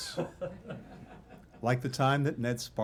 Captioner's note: laughter